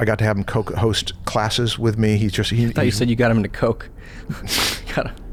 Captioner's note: chuckles